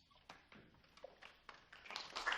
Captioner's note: applause